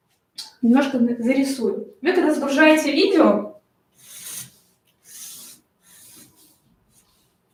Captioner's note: шелест маркера по бумаге